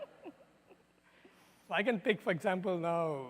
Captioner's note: laughter